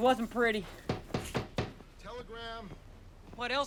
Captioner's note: knock on door